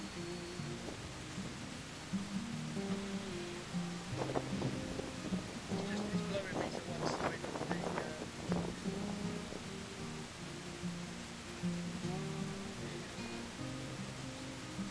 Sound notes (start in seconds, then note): 3.7 sound of wind across the camera microphone